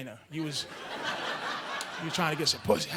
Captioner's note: audience laughing